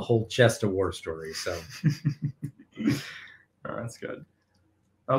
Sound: chuckling

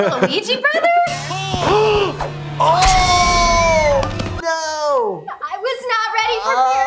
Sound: both gasping/screaming

